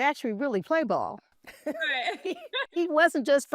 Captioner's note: laughs